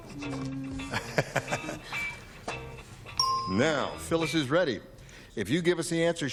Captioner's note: laughs